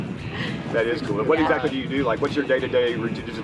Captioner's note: woman chuckling